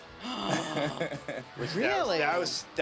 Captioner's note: laugh